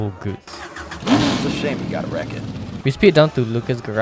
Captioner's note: loud vroom vroom noises